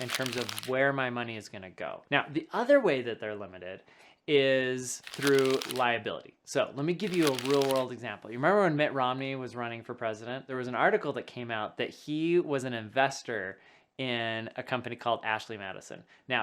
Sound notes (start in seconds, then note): 0.0 paper rubbing; 7.0 paper rubbing; 7.0 plastic rubbing